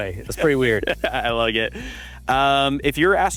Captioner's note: laughs